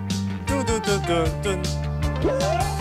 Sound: humming

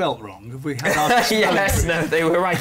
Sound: laughter

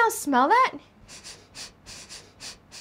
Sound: sniff, sniff

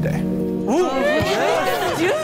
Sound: contestants chatter

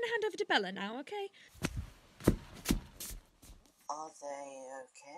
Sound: rustling, hurried footsteps

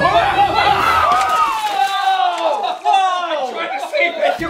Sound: shouting and screaming

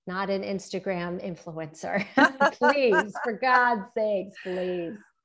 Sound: laughter

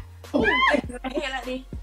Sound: laughs

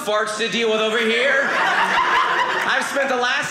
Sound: audience laughing

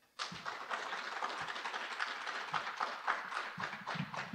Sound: audience applauding

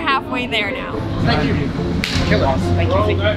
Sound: hands slap

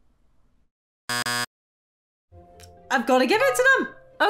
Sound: buzzer beeping

